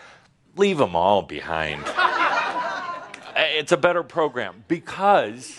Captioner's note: laughter